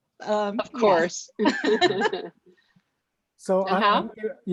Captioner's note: laughing